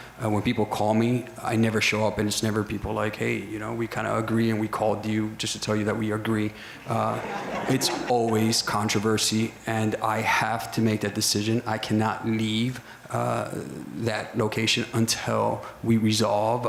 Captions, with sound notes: When people call me, I never show up and it's never people like, "Hey, you know, we kinda agree and we called you just to tell you that we agree." (crowd laughter) It's always controversy, and I have to make that decision. I cannot leave that location until we resolve,